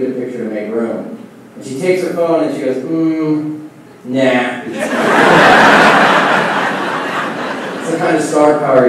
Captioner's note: laughing